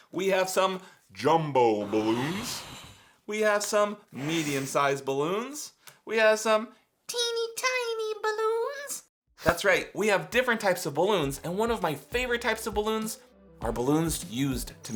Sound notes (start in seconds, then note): 1.8 balloon inflating